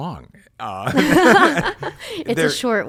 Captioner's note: both laugh